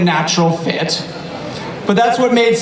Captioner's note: audience laughter